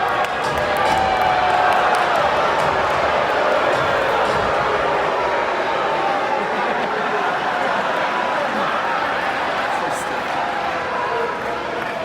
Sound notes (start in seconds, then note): 0.8 crowd boos